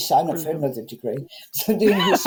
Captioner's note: laughs